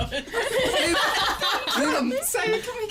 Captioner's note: laughter